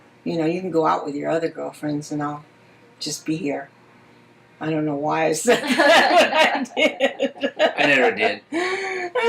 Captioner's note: laughs